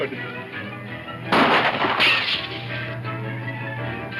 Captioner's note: guns banging